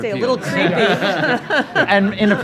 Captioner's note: attendees laughing